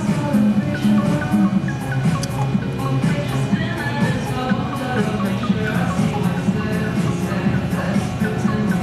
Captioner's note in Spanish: voces